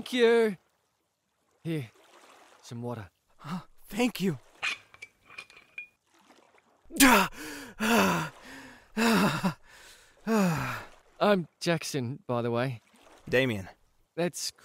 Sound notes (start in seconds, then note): 9.9 satisfied sigh